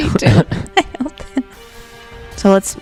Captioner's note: laugh